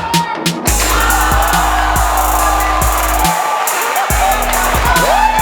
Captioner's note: spectators applauding